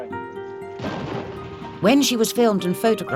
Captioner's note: land mine exploding